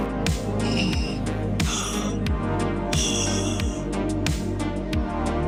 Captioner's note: strained Breathing